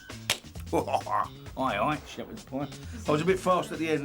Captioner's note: chuckles